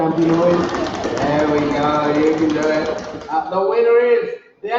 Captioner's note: audience stomps feet